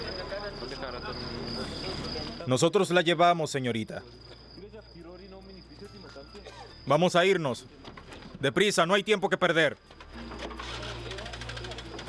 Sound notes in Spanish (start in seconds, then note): 0.8 Audio hablado en francés